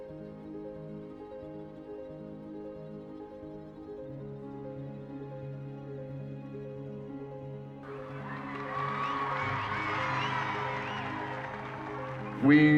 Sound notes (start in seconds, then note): 7.8 crowd cheers